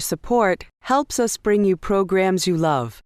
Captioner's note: voiceover